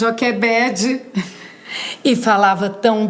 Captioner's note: laugh